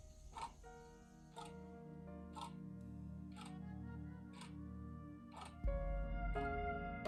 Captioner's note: sad piano music; clock ticking